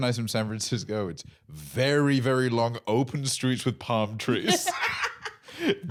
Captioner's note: laughs